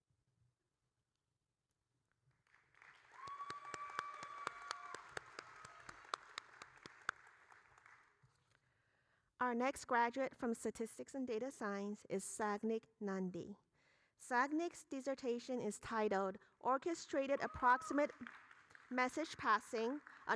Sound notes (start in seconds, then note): 2.5 applauding; 3.0 audience cheering